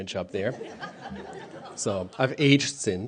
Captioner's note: laughter